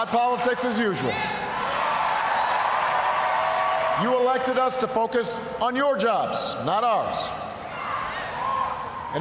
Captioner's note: cheering and applause